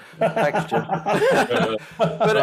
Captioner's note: all panelists laugh